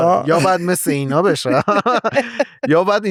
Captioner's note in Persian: خنده